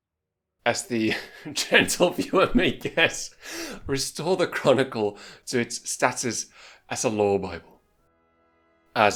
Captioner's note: laughing